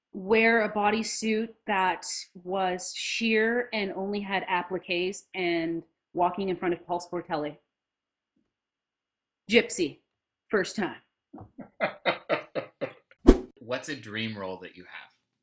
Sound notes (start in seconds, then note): 11.4 laughs; 13.2 whoosh